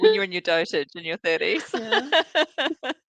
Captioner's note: all laughing